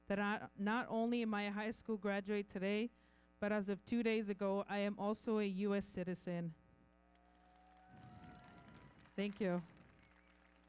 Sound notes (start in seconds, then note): 7.1 everybody clapping; 7.2 audience cheering